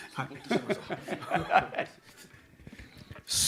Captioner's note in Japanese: 笑い